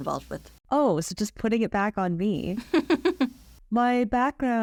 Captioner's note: laughs